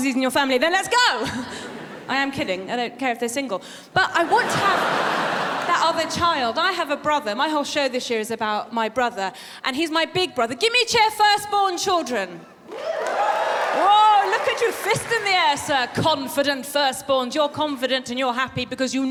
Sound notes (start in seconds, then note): 12.6 woos from audience